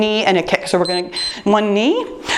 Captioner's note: timer beeps